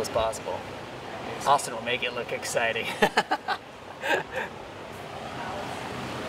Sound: laughs

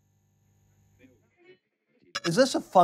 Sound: digital blip

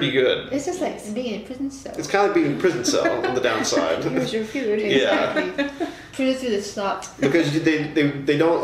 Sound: laughter

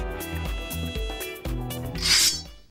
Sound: lighthearted upbeat music; sword whoosh sound

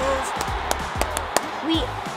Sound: hands clapping

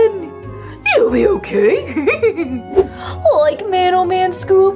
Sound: laughs

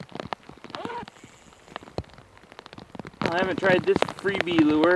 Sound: zipper zips

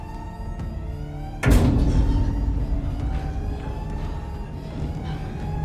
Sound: bang

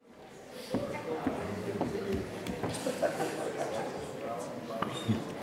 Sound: general audience chatter

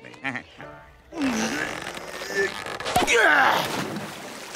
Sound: grunting

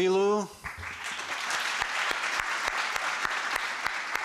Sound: applause

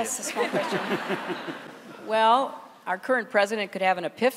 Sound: laughter

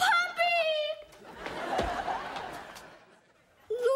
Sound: laughing

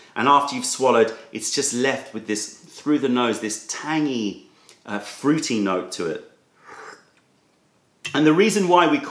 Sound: sips tea

